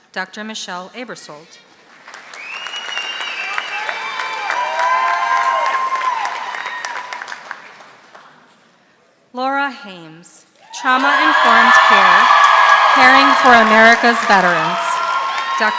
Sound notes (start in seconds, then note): 1.9 audience applauding; 10.6 audience cheering